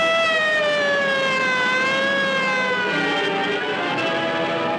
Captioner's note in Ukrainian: сирени кричать